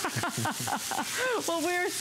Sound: laughter

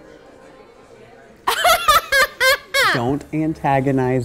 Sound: laughs loudly

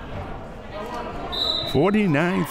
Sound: whistle

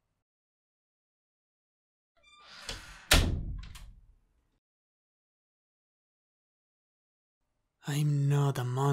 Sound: door closing

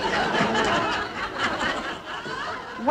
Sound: audience laughing

